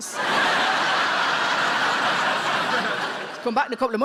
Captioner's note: audience laughs